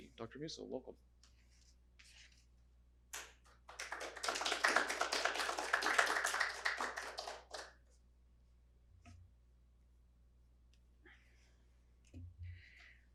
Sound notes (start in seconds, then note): 3.6 audience applauding